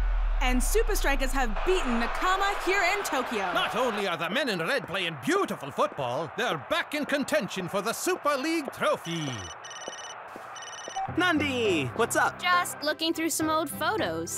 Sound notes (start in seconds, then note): 10.5 phone ringing; 10.5 phone beeping